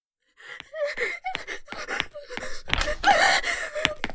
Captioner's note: crying